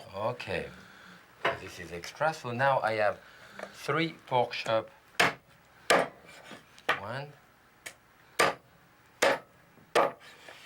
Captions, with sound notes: Okay. This is extra so now I have three pork chop. (chopping) One. (chopping)